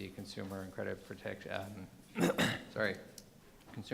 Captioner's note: clears throat